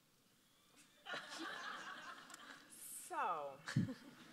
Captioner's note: audience laughs